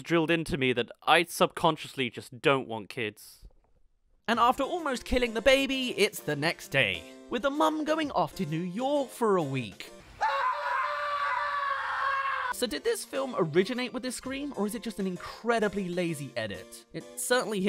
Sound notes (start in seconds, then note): 10.1 screaming